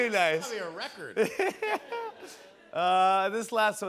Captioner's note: laughs